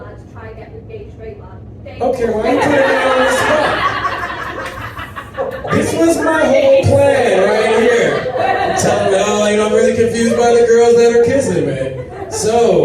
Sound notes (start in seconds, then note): 3.7 audience laughs